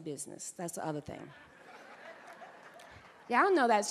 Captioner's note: audience laughing